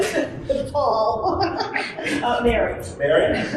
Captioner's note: laughter